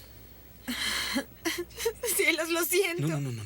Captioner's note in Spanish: Jodie soluçando